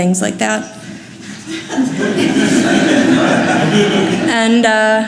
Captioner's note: audience laughs